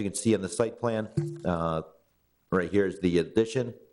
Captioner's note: computer chimes